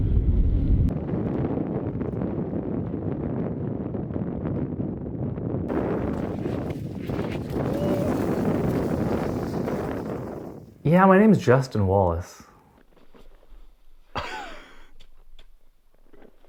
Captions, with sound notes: (wind howling) - Yeah, my name's Justin Wallace.